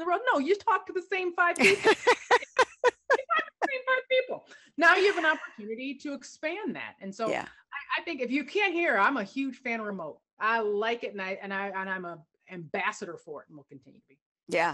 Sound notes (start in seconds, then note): 1.6 laughter